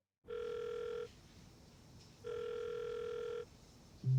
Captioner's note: phone ringing